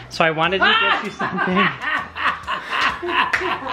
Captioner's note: laughing